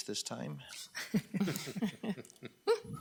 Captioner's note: laughing